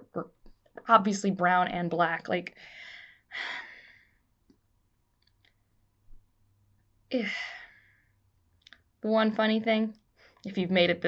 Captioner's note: sigh